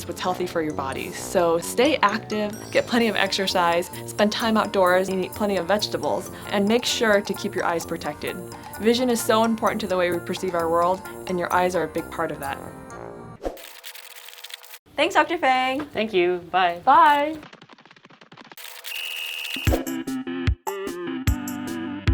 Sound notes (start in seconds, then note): 16.8 fast footsteps; 18.8 whistle blows